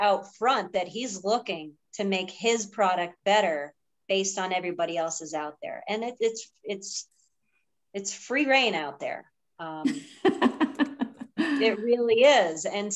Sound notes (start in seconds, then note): 9.8 laughs